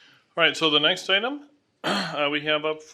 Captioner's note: clears throat